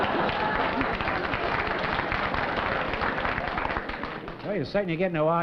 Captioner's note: laughter; applause